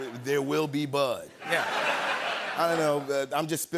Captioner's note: laughter